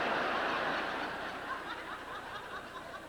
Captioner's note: laughter